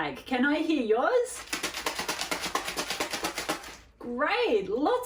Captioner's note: shaker rattles